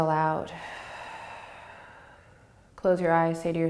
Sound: exhaling

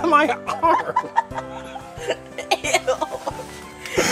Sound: both laughing

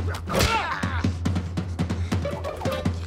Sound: grunts

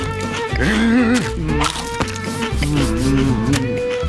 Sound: crunching; groaning

